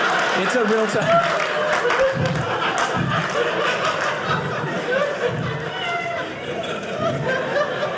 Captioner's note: audience laughing